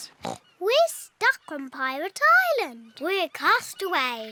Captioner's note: oinks